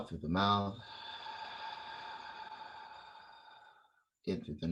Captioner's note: exhale